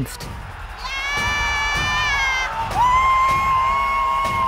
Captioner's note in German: jubeln